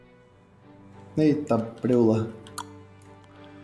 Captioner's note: tongue click